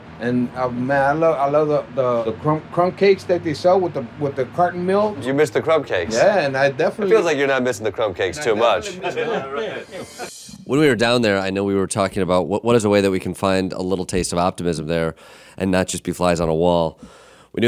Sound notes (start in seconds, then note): 8.7 laughing; 9.4 whooshing